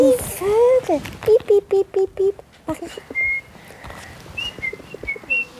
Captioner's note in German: Sie ahmt Vögel nach